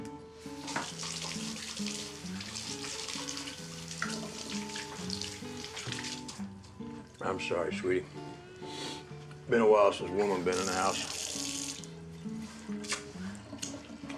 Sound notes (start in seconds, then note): 0.6 water splashing